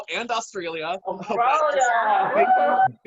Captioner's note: cheering